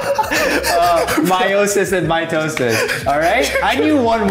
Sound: both laughing

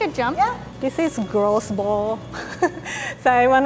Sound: laughs

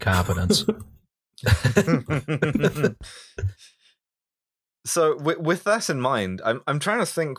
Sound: laughter

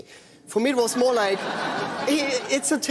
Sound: crowd laughs

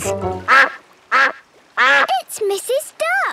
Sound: quacking

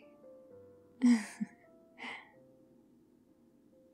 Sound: laughs

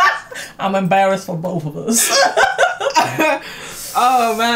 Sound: laugh; laugh

